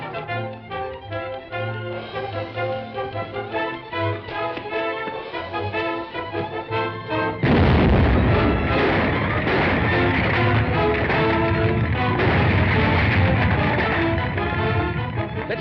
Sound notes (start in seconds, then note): 0.0 upbeat music; 7.3 explosion; 10.5 ground rumbling; 13.9 dramatic music